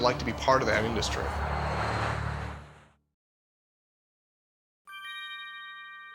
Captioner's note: aircraft whooshing; audio chiming